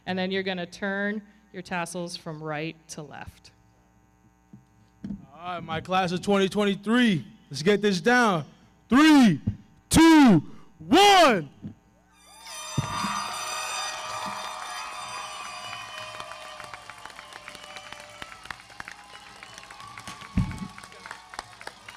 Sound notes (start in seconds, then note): 12.4 audience cheering; 12.4 everybody clapping; 14.9 foghorn blowing; 16.9 audience cheering; 16.9 everybody clapping